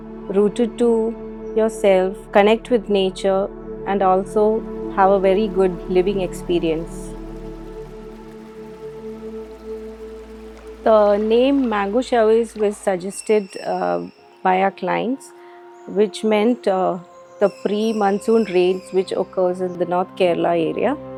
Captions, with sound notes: rooted to yourself, connect with nature, and also have a very good living experience. [Water gurgling] The name 'Mango Showers' was suggested by our clients, which meant the pre-monsoon rains which occurs in the North Kerala area.